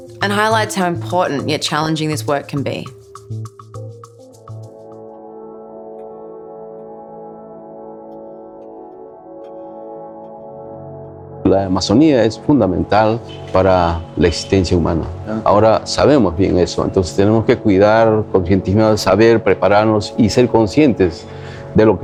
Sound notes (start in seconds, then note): 4.4 atmospheric music; 11.3 speaking spanish